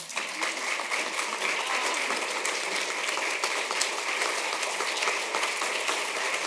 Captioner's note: applause